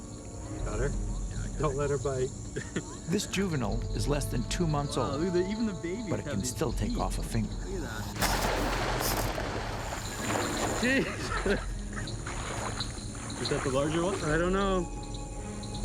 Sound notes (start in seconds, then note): 10.5 laughs